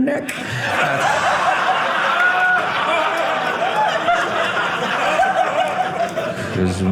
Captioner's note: audience laughing